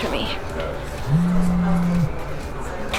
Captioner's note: phone vibrates